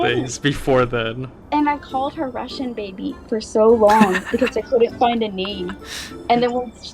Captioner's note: laughs